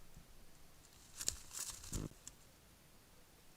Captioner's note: Kākāpō footsteps